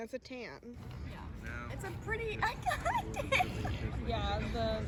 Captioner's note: giggling